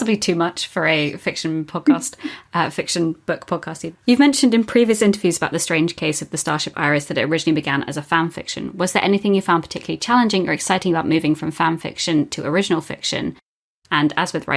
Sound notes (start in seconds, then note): 2.3 laughs